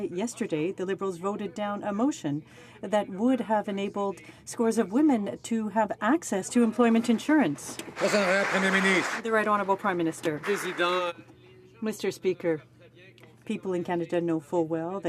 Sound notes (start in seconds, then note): 10.7 some Applause